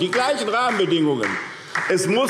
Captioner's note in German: Beifall SPD